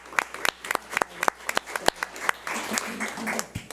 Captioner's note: audience applauds